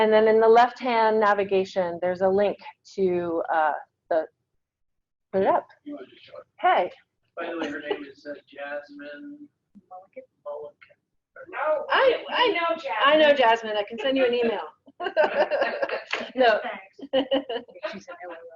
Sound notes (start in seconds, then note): 6.2 speaking away from mike; 15.0 laughs